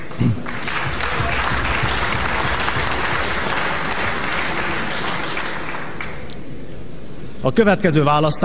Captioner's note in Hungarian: Taps